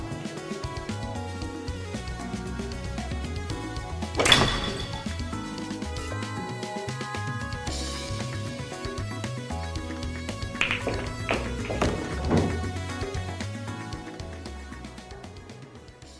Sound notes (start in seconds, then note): 3.9 clack!; 10.6 clack! Roll